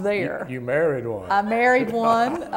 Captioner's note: laughter